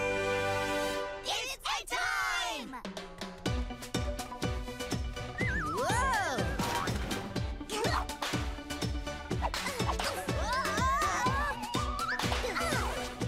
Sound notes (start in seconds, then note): 2.9 upbeat music; 7.5 grunting